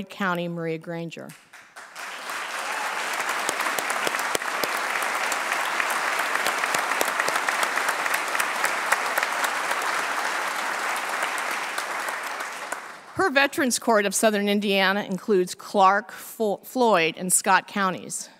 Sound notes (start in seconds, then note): 1.3 applause